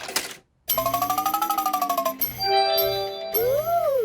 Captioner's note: beeps and chimes